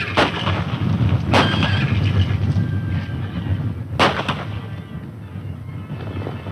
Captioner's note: gun shots; horses neigh; running hoof beats